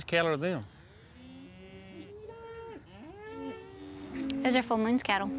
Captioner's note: mooing